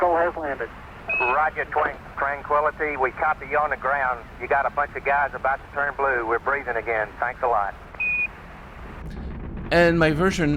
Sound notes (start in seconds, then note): 8.0 lower beep